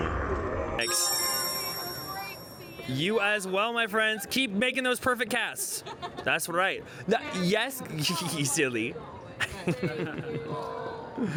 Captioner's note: laughs